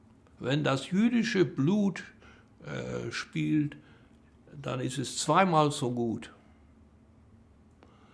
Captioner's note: german